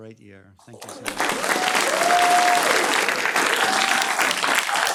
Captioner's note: clapping